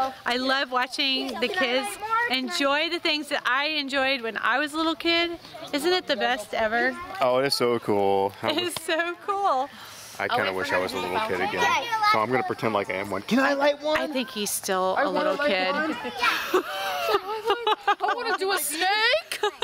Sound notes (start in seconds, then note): 15.2 laughter